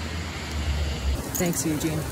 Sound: rain noises

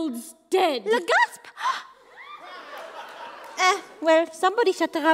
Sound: gasp

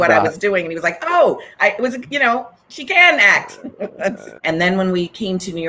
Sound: chuckles

